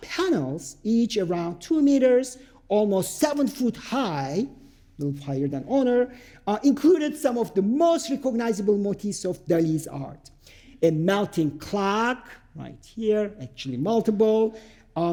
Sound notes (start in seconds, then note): none